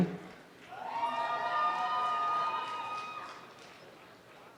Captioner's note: applause and cheering